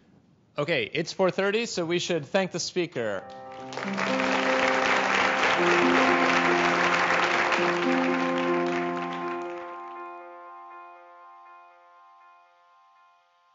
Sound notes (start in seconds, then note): 3.1 soft piano music; 3.3 applause